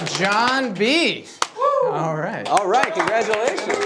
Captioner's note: audience applauding